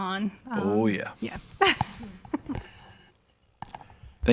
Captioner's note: laughs